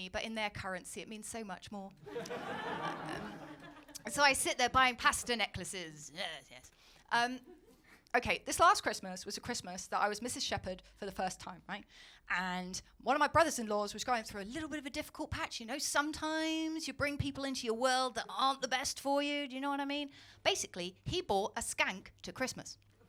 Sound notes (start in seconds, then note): 2.0 audience laughing